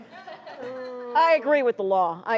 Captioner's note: laughter; audience groans